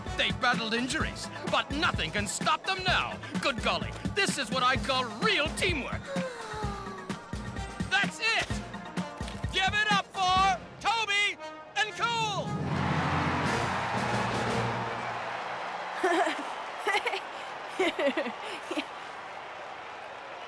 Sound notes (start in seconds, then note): 6.0 sighing; 11.8 cheering; 16.0 chuckling